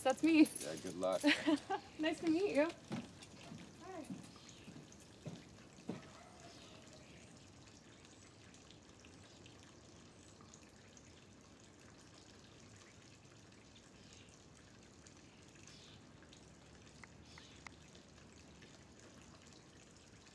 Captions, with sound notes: - Well, I guess that's me! - Yeah, good luck. - (chuckles) Nice to meet you! Hi!